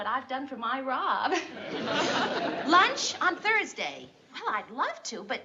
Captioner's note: chuckles